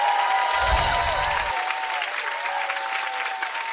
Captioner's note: chimes